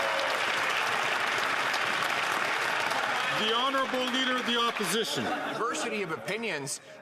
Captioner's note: some Applause